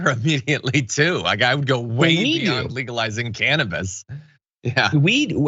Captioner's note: laugh; laugh